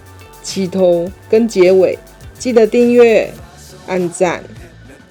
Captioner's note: walking